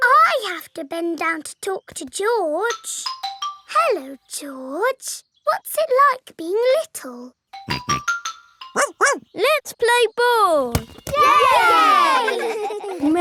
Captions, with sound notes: I have to bend down to talk to George. Hello, George, what's it like being little? (SNORTS) (BARKS) Let's play ball! (ALL CHEERING AND LAUGHING)